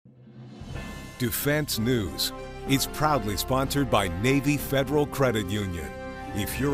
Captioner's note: male Voice